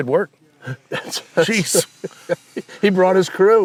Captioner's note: laughing